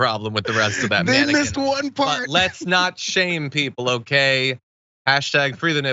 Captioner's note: laugh